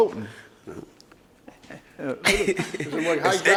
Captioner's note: laughs